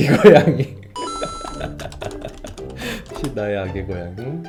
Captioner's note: laughing